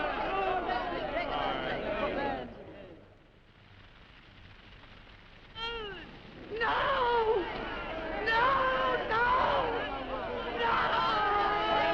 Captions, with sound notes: (crowd shouting) (fire cracking) No! No, no! No! No!